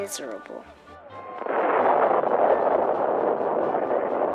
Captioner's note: thunder